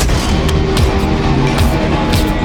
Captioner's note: dramatic music; men grunting; fists landing